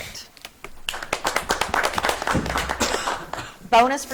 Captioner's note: audience clapping